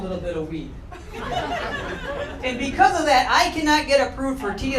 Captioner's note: crowd laughing